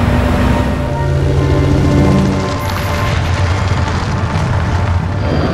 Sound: helicopter rotor spins; truck roars

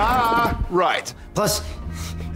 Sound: sarcastic

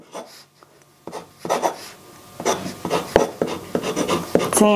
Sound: pen scratches

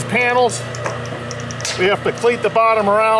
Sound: machine rumbling

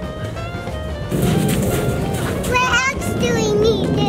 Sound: clatter; crunching gravel

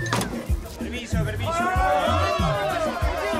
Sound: screams

